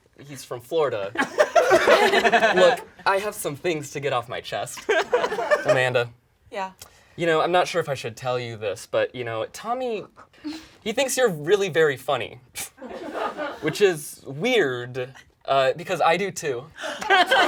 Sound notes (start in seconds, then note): 1.1 people laugh; 16.9 all laugh